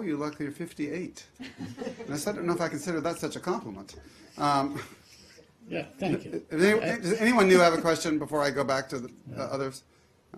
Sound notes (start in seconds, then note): 3.9 laughter